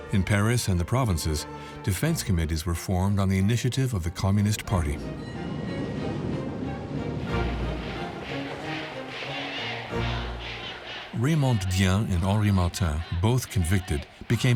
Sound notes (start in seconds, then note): 4.9 bell dings; 9.0 all chant